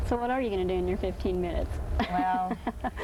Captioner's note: laughing